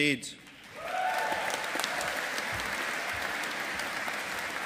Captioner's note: audience applauding